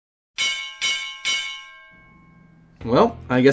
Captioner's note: bells dinging